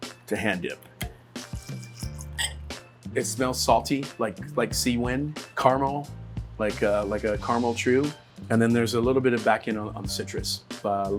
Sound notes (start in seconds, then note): 1.6 glass clinks; 2.0 whiskey pouring